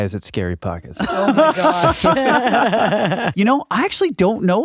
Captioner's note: laughing